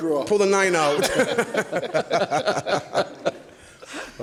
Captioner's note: laughs